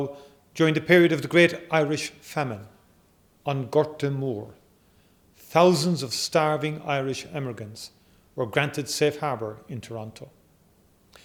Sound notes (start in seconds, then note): 3.4 in Irish